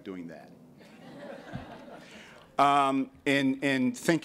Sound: laughter

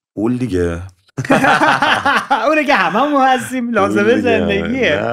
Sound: laughter

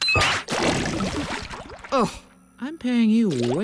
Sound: beeps

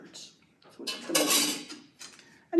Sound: clang

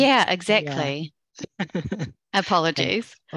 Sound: laughter

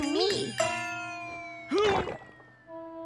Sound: gagging

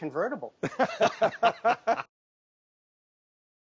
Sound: hosts laugh

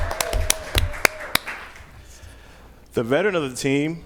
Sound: applause

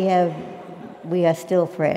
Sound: laugh

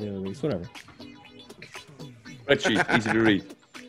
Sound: laugh

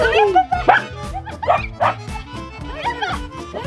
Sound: dog barking

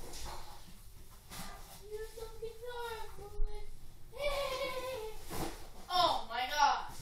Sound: laughing one more time

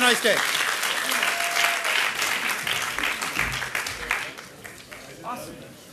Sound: audience applauding

